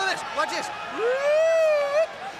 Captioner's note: imitates whistle tweeting